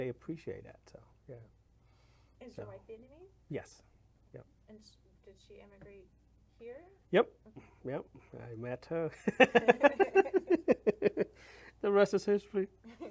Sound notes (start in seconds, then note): 9.2 laughs